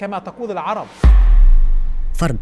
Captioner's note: sound effects